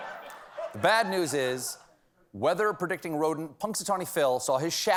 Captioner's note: laughter